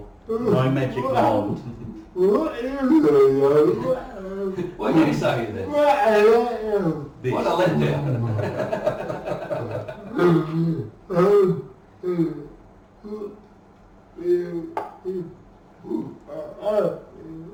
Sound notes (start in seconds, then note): 0.0 laughing; 7.3 laughing